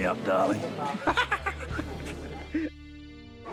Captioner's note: laughs